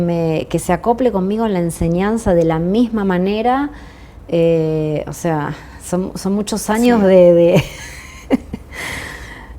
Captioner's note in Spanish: risas